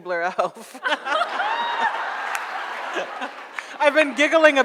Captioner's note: audience laughs